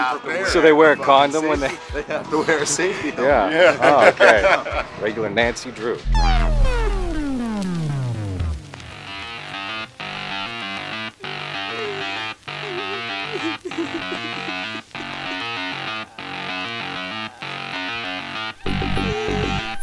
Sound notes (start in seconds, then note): 3.4 laughs; 4.7 laughter; 6.0 electronic music; 9.4 energetic techno music; 13.8 woman crying